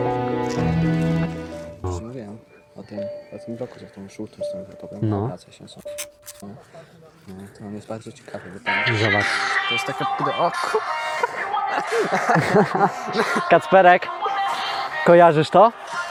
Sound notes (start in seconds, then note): 0.0 poignant music; 5.8 writing sound; 10.3 lauging